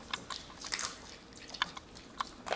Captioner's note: Crunch